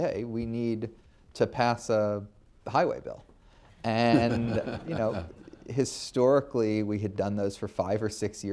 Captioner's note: laughter